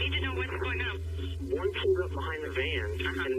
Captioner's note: on phone